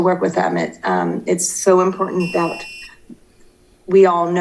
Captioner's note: timer beeping